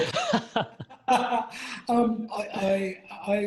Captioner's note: laughs